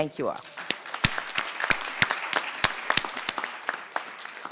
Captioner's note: audience clapping